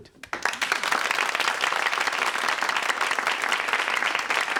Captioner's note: audience clapping